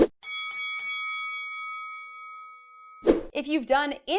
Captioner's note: bell ringing